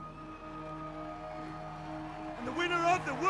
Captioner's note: audience cheering